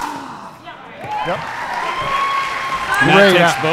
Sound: audience cheering

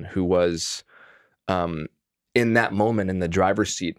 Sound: none

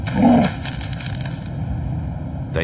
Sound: fire crackling

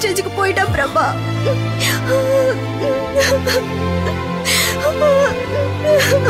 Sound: crying

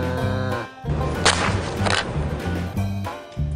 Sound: cow moo-ing; crunch

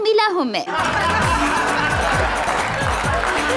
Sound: laughs

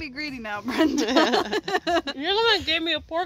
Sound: laughing

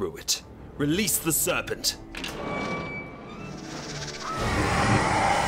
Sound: serpent hissing

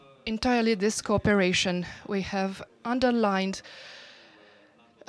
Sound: speaking foreign language with translation

